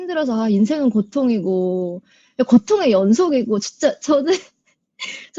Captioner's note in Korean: 웃음